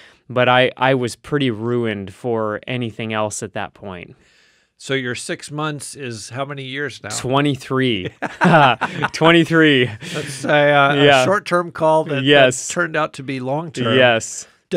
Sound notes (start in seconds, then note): 7.9 laughing